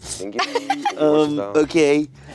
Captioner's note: giggling